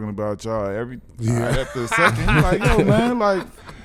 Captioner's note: laughing